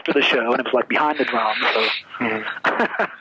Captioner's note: laughs